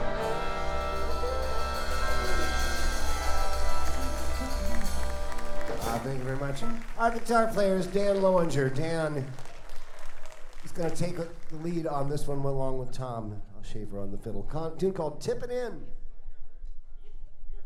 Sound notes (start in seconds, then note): 4.1 audience applauding